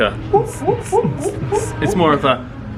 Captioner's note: imitating heavy bass music